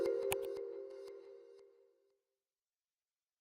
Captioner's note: lively music; computer mouse click